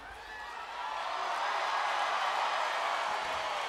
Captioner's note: crowd cheering